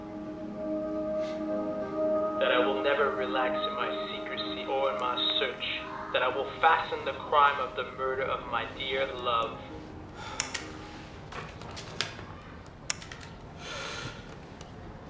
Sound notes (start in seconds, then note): 10.1 sighs